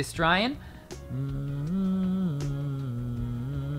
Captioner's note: humming national anthem